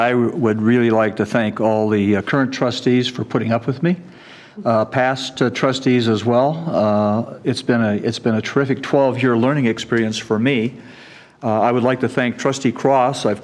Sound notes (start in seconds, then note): none